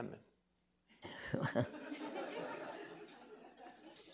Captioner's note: laughter